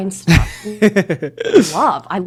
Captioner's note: laughs